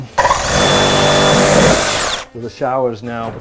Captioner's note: drilling sounds